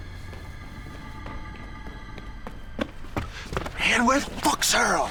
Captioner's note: approaching footsteps